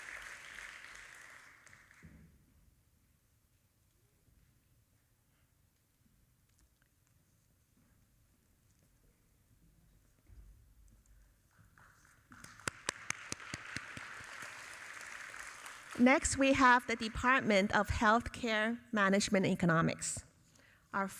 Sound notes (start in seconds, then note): 11.8 audience applauding